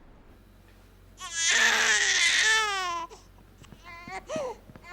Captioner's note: baby crying